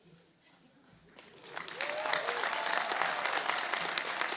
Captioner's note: applause